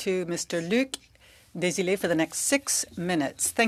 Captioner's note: speaking French